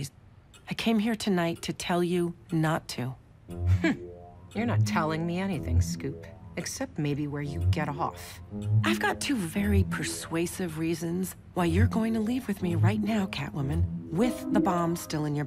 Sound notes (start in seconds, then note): 3.0 scoffs